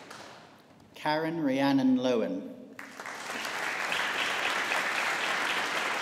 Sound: audience applauding

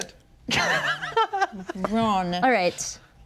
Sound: laughing

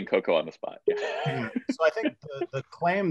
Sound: laughs

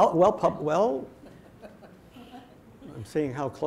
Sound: audience laughing

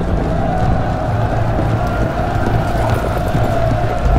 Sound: soldiers shouting

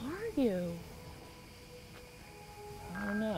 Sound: crickets, soft music

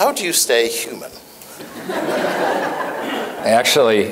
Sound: laughter

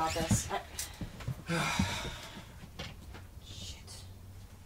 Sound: sighs

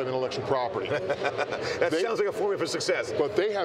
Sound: laughs

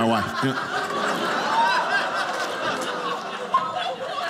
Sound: audience laughing

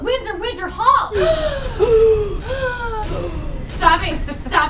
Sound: gasps

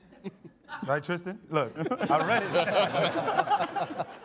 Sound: all laughing

